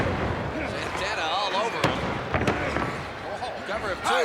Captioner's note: hands thudding